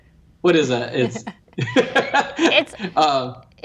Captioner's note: laughs